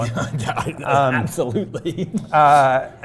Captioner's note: laugh